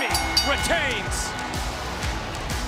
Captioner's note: bell rings